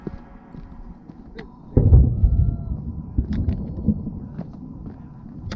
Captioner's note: thunder sound